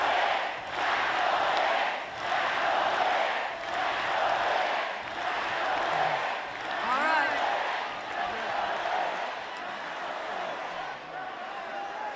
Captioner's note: chanting